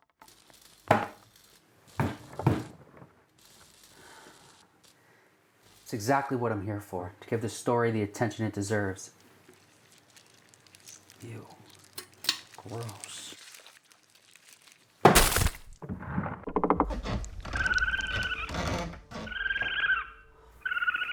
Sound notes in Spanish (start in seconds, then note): 0.2 bombilla zumbando; 2.0 golpes en la pared; 13.3 insectos resbalando; 15.1 matraz se cierra de golpe; 17.3 tablas del piso crujiendo; 18.1 gorjeo de animales